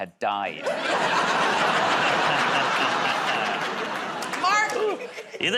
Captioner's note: laughter